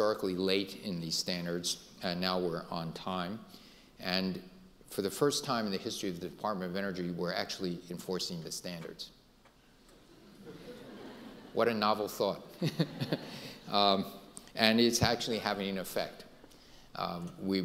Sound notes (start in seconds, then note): 10.1 audience laughing; 12.5 laughs